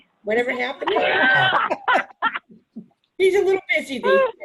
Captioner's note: laughs